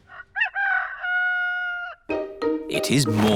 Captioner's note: rooster crowing